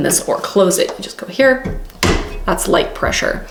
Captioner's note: press thumping